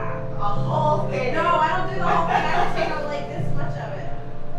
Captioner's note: laughing and talking